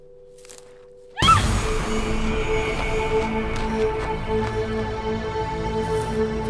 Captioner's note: Ellie screams; intense music